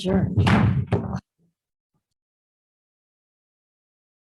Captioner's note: gavel bangs